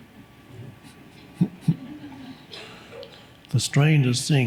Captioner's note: Eckhart chuckles; audience giggles